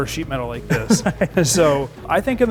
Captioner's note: chuckling